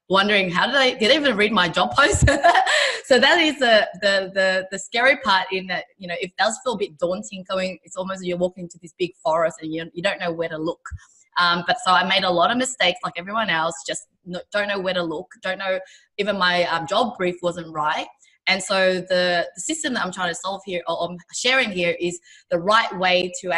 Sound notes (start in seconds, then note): 2.2 laughing